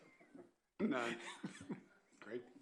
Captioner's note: laughter